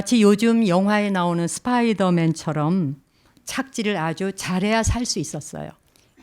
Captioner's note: speaking in Korean